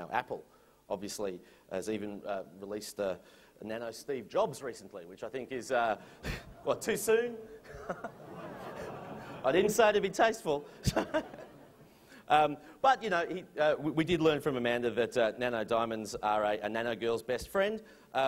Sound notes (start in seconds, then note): 7.6 laughter; 10.7 chuckles